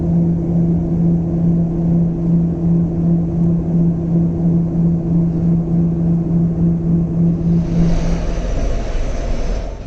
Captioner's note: aircraft landing